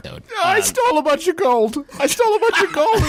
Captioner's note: laugh